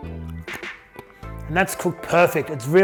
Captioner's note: teeth crunching